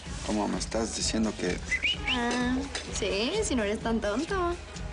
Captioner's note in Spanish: Silbido